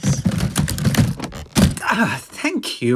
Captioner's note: banging. Suitcase opens with a click